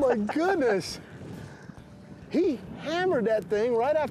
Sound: chuckles

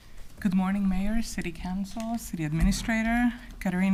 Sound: none

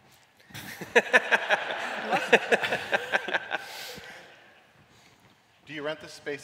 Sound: laughter

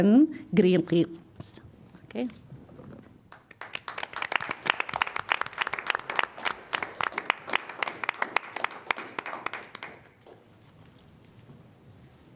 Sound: applause

